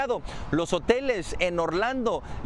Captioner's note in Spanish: hablan inglés